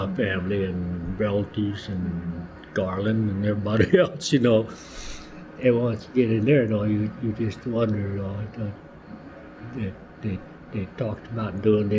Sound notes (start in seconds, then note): 3.7 laughs